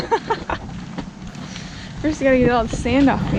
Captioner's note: laughing